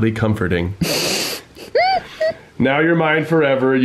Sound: laughing

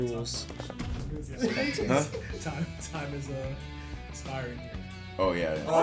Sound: laugh

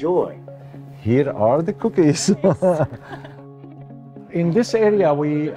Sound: laughs

